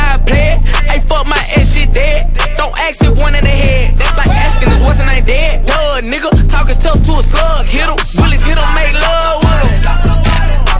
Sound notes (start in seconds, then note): 7.4 pow